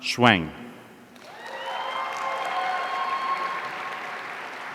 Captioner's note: audience cheering